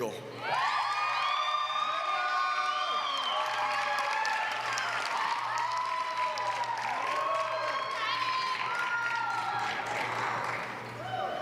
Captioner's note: applause